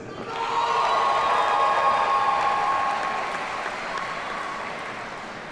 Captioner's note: audience cheers and applauds